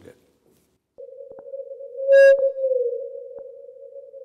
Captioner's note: whales singing